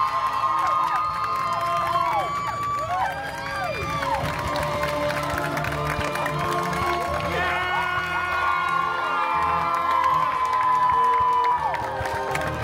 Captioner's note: guests cheering and applauding